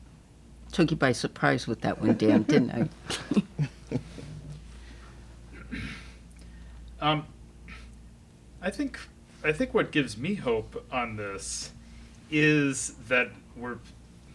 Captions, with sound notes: Took you by surprise with that one, Dan didn't I? (laughing) - I think, I think what gives me hope on this is that we're...